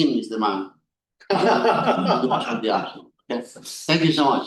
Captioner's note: laughter